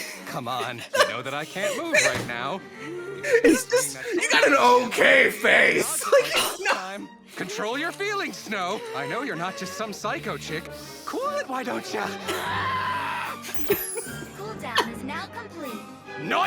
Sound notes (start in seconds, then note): 5.7 laughs; 5.9 laughter; 12.4 snarls